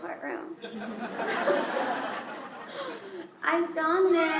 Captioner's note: laughter